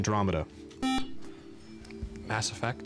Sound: beep

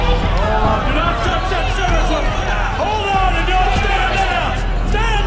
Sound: people yelling in confusion and panic

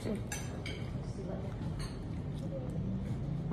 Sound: nommmm

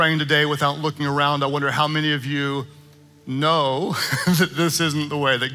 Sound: chuckling

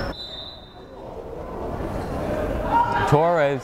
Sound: whistle blows

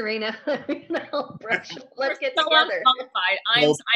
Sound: chuckling

